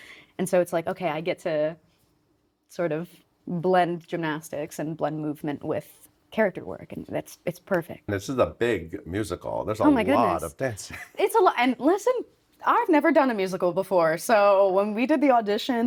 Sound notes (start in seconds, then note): 10.6 chuckling